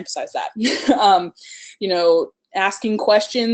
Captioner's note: laughs